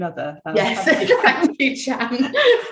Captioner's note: laughing